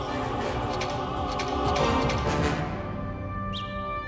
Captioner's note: signs clicking